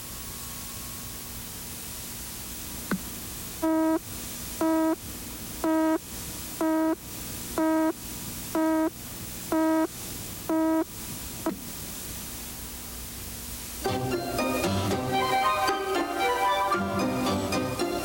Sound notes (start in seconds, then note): 3.6 beeping; 13.8 lively music